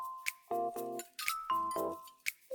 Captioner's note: whisk